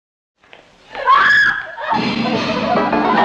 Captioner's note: scream